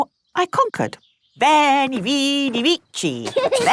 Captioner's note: laughing